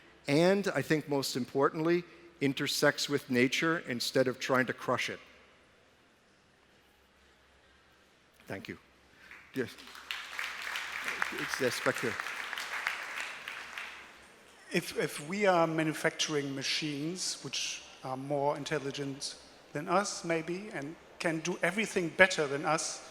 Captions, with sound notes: And intersects with nature instead of trying to crush it. Thank you! (Applause) If we are manufacturing machines which are more intelligent than us,